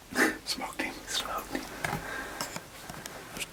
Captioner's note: whispering